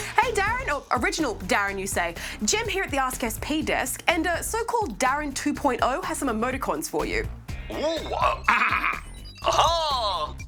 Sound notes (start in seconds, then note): 9.4 clears throat